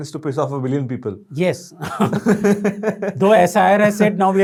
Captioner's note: laughing